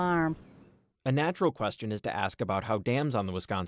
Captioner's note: voice-over